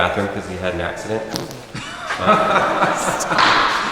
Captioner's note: laughter